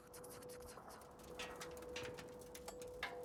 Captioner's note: metallic tinkling